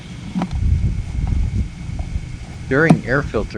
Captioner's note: wind blowing